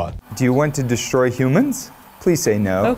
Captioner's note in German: englisch